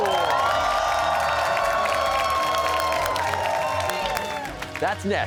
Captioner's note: cheers and applause